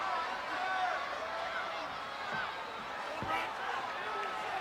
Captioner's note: crowd chattering